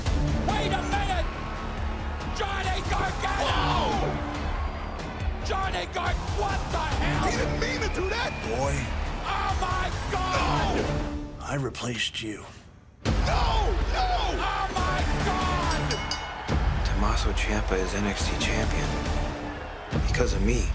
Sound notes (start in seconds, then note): 17.3 bell ringing